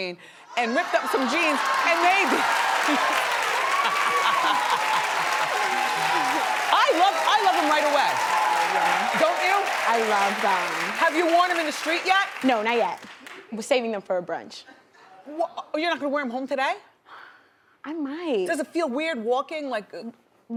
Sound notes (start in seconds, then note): 3.2 audience cheers; 3.8 woman laughs